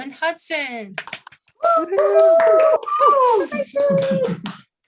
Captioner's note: cheers